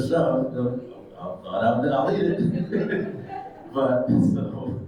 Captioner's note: attendees chuckles; chuckles